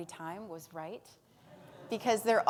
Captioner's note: audience laughs